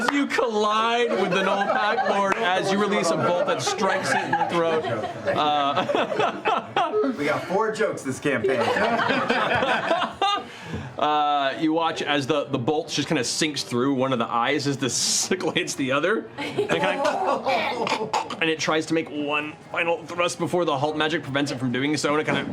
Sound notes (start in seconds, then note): 17.6 choking